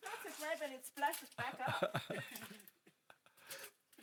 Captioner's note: laughs